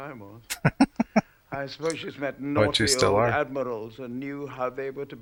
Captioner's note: chuckling